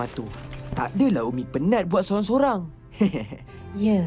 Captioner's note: soft laugh